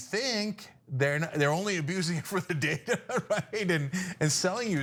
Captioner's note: laugh